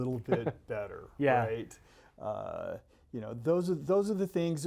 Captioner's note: laughs